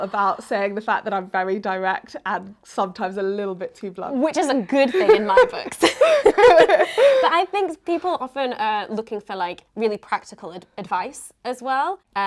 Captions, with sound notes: about saying the fact that I'm very direct and sometimes a little bit too blunt. - Which is a good thing in my books. (both laughing) But I think people often are looking for like really practical advice as well